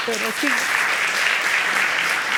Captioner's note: applauding